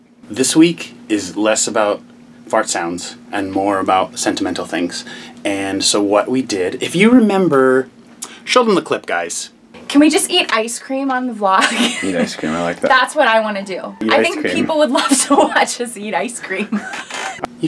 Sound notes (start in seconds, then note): 11.7 laughs